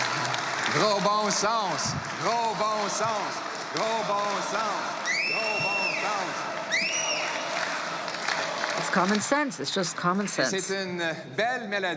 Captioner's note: applause